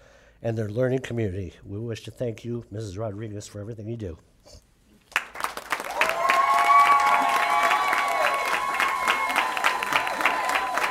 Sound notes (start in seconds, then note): 5.0 applause; 5.7 cheering